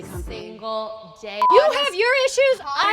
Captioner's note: beep